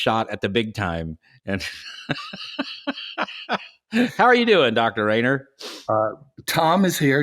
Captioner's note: laughs